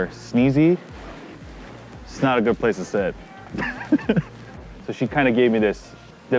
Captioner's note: laughing